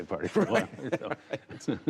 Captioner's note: laughter